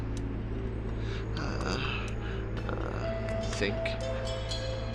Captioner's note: Daveyboy moaning